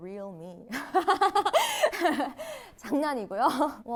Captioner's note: ahahaha